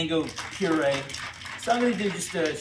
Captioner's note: ice clinking sound